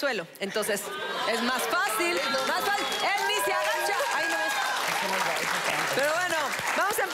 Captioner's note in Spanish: Aplausos